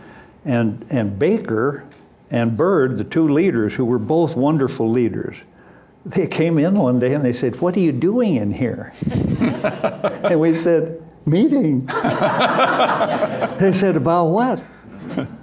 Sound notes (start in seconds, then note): 9.0 laughter; 11.9 loud laughter